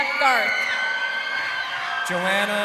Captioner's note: crowd cheering